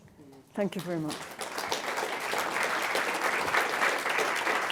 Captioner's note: applause